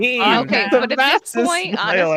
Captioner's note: general laughter